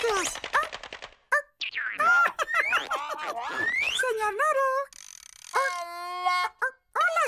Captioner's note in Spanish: riendo